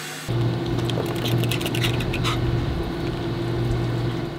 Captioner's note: dog pants